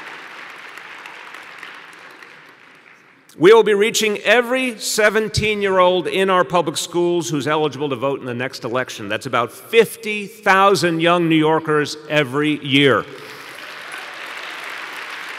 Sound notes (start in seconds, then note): 0.0 applause; 3.0 cheering